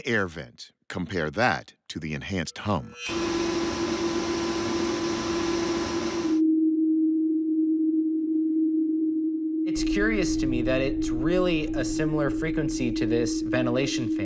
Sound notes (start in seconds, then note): 3.0 humming